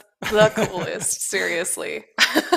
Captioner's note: laughs